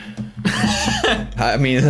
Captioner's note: laughs